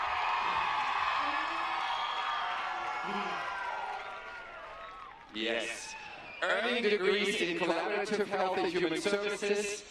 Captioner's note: applause